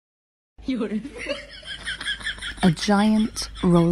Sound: chuckling

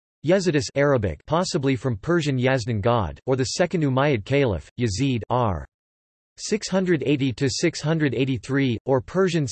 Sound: Arabic

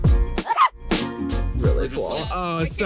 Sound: cheerful music; dog barks

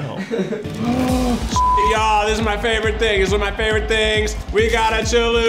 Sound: gasps

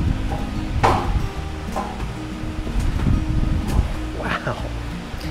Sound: trampoline clacking

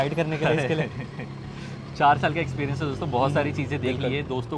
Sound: chuckles

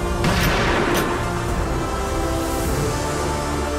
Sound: gun shoots

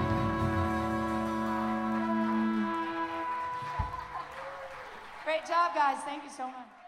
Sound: applause and cheers

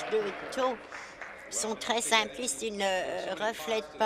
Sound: applause

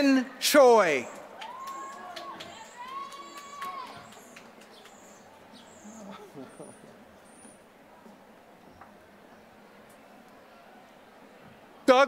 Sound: applause

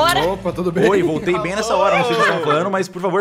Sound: laughing

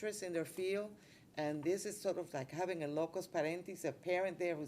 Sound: speaking Spanish

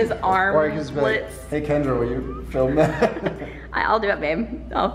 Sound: laughs

